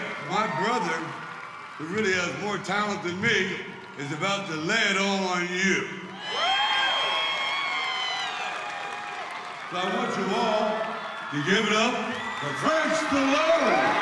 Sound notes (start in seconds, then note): 6.3 crowd cheers